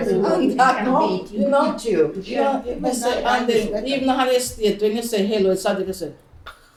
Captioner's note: general group chatter